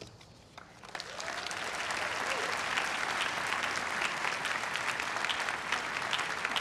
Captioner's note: everyone cheering and applauding